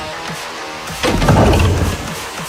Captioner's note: engine cranks